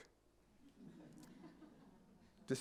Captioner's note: laughter